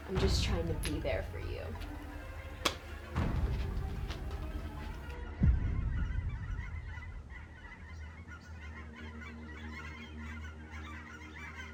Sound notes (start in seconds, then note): 2.6 ominous music; 6.6 birds cawing; 8.6 foreboding music